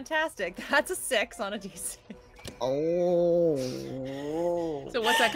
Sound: growls

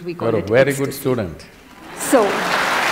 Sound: applause

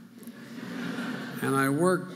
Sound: audience laughing

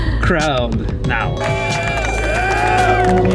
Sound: sound of a crowd, cheering

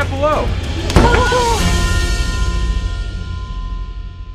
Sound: door slams

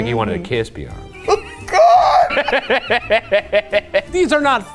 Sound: laughs

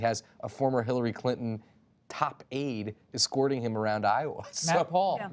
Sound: laughs

